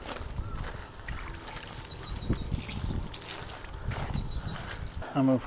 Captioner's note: birds chirruping